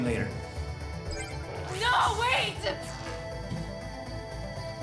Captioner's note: disconnect chime